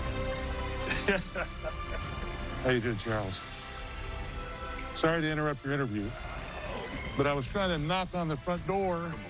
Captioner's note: laughs